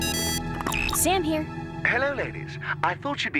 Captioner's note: phone ringing